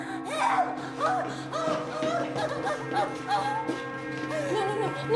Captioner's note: sobbing